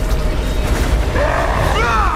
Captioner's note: roars